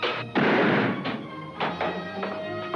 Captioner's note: golpes de arma; música emocionante